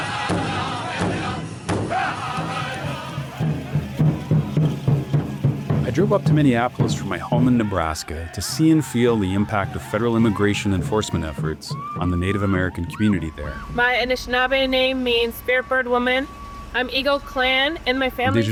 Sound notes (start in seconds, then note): 2.3 people chanting in Native American language